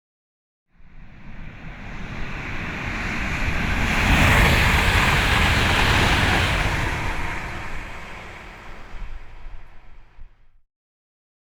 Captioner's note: train passing